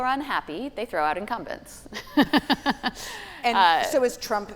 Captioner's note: laughing